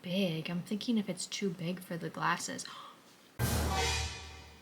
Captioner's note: gasp